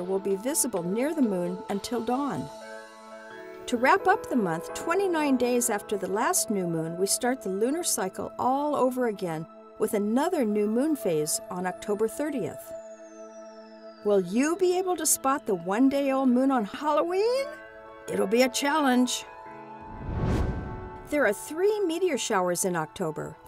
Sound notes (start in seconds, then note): 19.8 whoosh